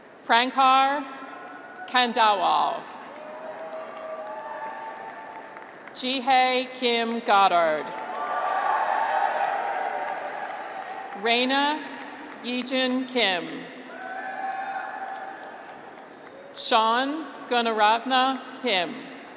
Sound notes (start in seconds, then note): 3.0 graduates cheer; 7.8 graduates cheer; 13.8 graduates cheer